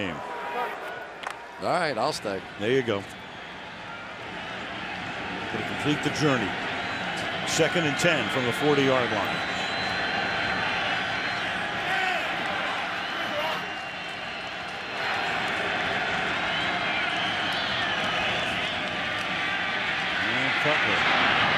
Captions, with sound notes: Gonna complete the journey. Second and 10 from the 40-yard line. [crowd cheering] And Cutler fires over the middle. And that's taken in by Jeffery, who thinks he wasn't touched.